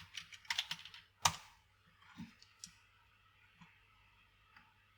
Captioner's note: keyboard clicking